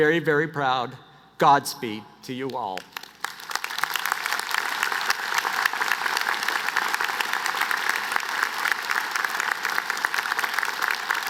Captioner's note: applause